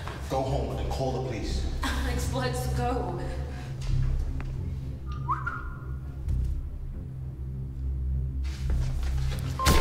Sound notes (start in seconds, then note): 5.0 whistling; 6.2 finger tapping